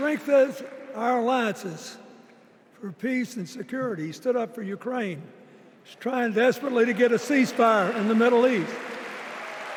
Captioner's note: applause